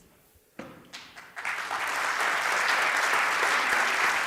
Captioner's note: applause